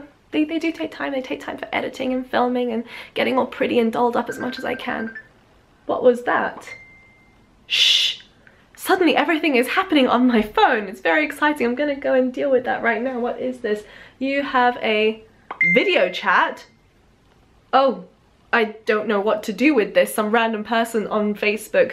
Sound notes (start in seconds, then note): 4.2 cell phone rings; 4.2 cell phone notification ding; 15.5 cell phone dings